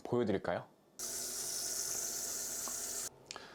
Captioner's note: water singing